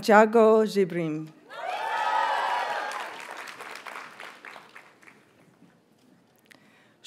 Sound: audience cheers and applauds

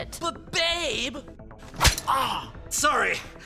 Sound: smacking noise

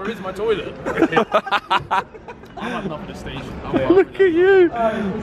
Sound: laughing

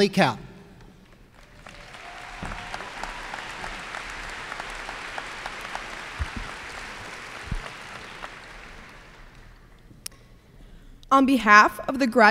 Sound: applause

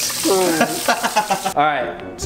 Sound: laughing

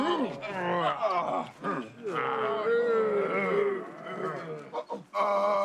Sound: all grunting disapprovingly

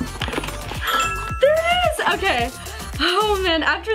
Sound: ding

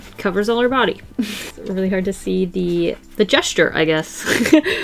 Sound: laughs

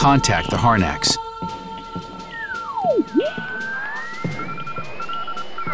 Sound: morse code beeps on radio

